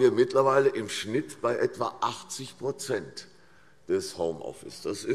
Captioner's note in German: none